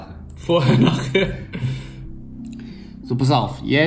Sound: laughs

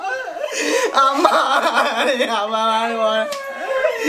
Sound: crying continues

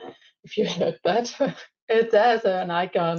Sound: laughs

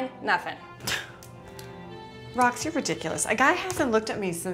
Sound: scoffs

